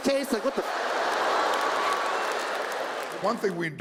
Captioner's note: audience applauds; audience laughs